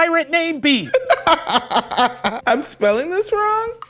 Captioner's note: laughing